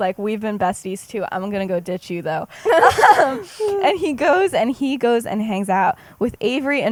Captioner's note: laughs